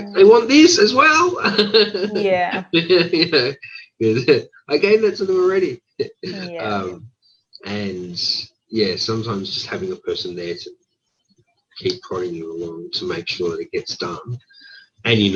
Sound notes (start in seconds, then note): 1.6 laughing